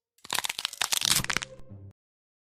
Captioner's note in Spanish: huesos quebrandose